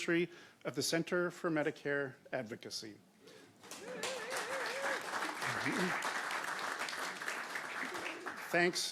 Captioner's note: applause